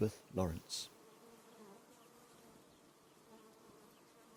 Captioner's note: bees hum